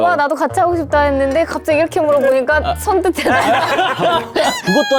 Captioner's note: scared